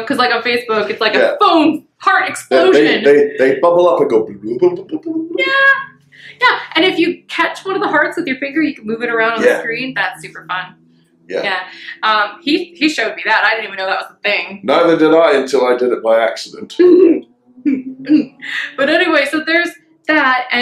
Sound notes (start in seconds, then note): 5.2 makes bubbling sound